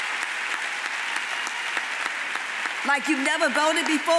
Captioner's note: audience applauds